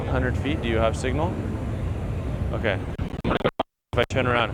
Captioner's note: crackles